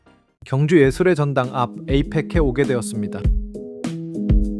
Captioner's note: speaking in foreign language